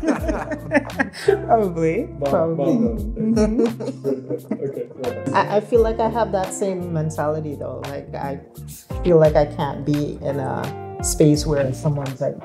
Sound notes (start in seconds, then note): 0.0 woman laughing; 2.7 people laughing